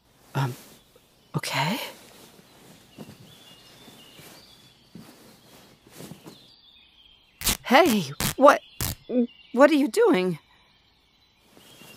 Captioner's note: tearing